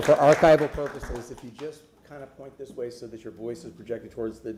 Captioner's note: applause